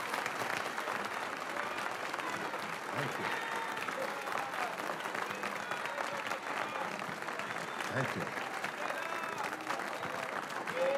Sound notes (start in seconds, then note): 6.7 applause